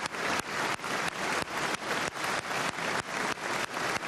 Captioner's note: cheers and applause